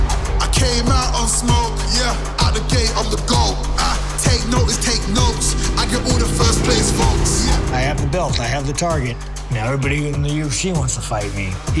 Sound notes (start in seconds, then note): 0.3 man rapping; 4.9 motorcycle engine rumbling